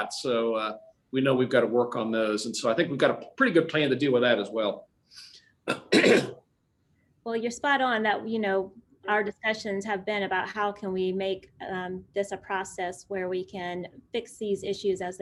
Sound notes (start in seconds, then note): 5.6 clears throat